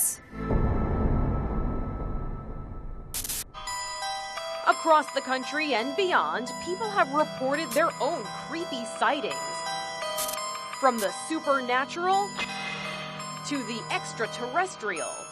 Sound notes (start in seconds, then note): 0.3 eerie electronic music; 3.1 static crackling